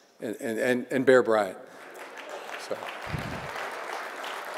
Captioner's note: audience clapping